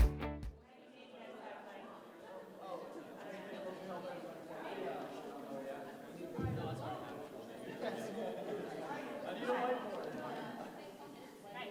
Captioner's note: background chatter